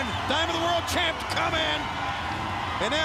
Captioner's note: crowd cheering